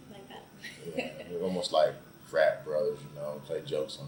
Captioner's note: laughs